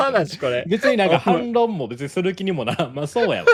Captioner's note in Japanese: 笑い